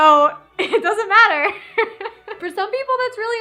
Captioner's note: laughs